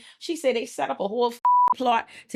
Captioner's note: beep